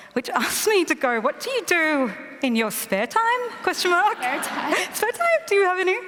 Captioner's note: laughter